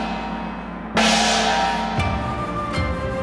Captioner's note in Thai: เสียงฆ้อง